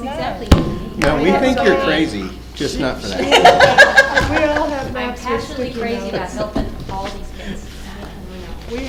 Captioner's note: laughter